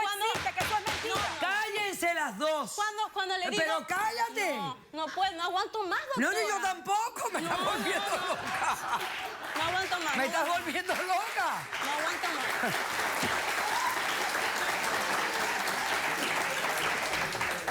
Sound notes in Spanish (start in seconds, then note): 7.4 risas; 13.3 aplausos; 16.4 aplausos